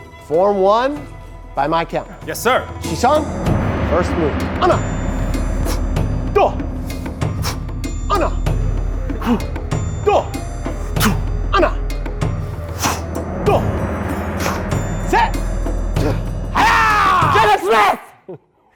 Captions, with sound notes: For one by my count Yes, sir [martial arts noise] Jaden Smith!